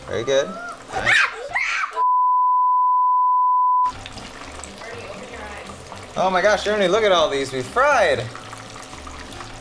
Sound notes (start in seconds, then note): 0.9 screams